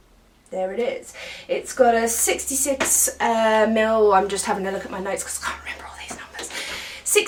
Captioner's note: whispers